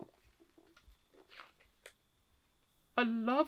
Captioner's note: pages turning